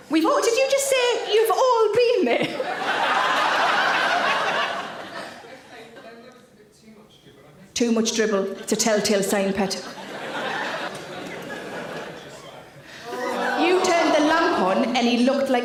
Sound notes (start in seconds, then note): 2.3 audience laughs; 9.7 audience laughs; 13.1 audience member groan